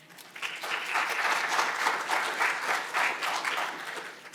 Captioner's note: audience applauding